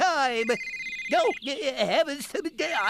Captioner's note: cell Phone Rings